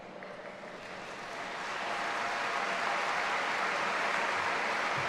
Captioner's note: audience applauding